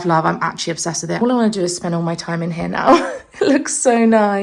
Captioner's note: laughs